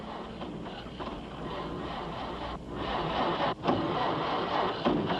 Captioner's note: engine sputters